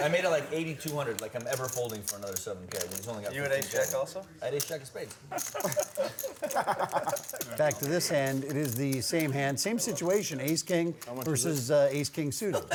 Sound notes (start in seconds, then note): 5.3 laughter